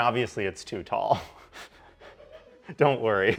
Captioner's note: laughing